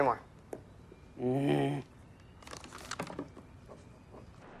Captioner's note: Phil grunting